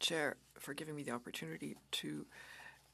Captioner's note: speaking French